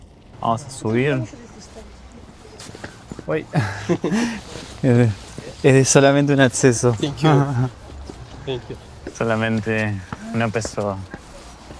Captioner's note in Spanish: risas